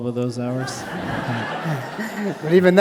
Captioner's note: audience laughing